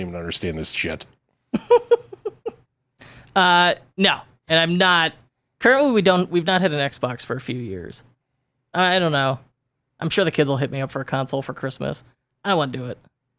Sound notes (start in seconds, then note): 1.5 laughs